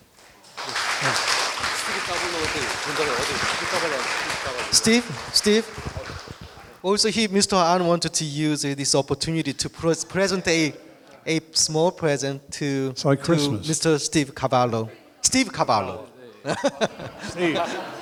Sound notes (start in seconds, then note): 0.1 applause; 2.8 speaking in foreign language; 16.4 laughs